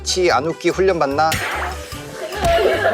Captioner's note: cracking up